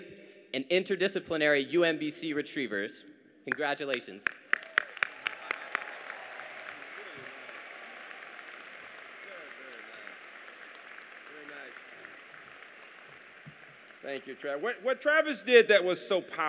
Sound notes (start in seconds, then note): 4.2 applause